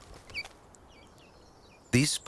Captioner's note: birds chirping